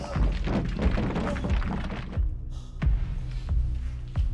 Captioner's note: wall rumbling